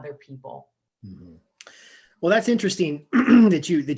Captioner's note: clearing throat